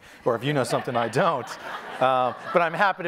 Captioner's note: audience applauding